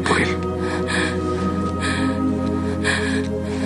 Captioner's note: continues panting